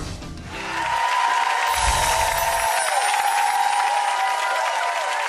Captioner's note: audience applause and cheers